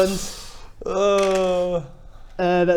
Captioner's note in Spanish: tirada de dados